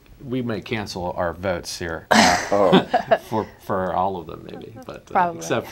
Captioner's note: laughs